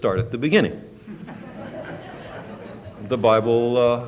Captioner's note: laughter